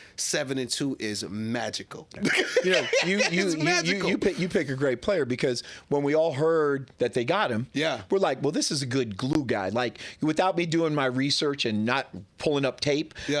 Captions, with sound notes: Seven and two is magical. (laughing) You pick a great player because when we all heard that they got him, we're like, well this is a good glue guy. Without me doing my research and not pulling up tape,